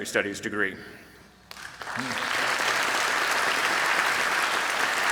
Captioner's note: applause